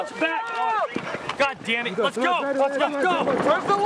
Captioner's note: yelling